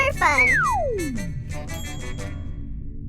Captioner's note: swish and ting